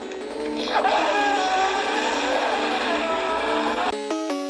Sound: car Sounds

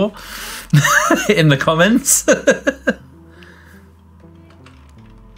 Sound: laughs

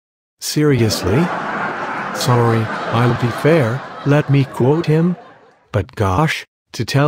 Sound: laughter

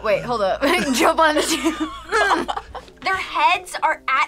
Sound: both laugh

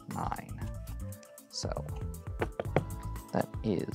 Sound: thumps cards on table

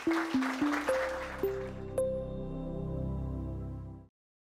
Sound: audience applauding; bells chiming

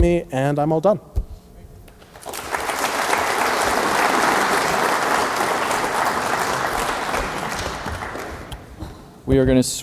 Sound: applause

